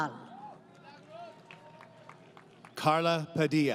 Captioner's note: applause